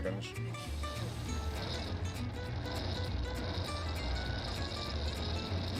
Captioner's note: locomotive whirring